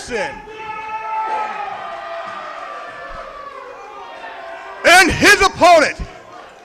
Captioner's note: crowd cheers